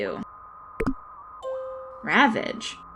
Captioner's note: comm ding